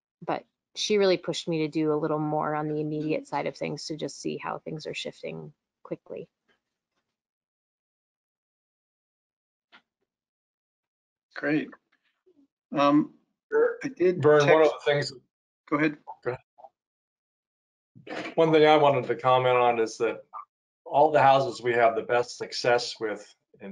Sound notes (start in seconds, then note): 13.5 men speaking together